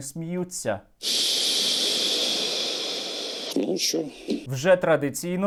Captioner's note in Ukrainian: зітхає